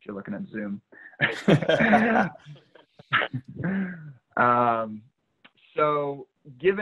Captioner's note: laughing